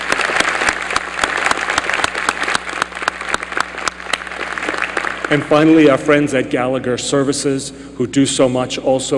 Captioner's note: applause